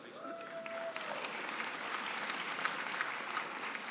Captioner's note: applause